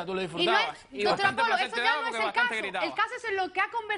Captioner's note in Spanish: Hablan al unísono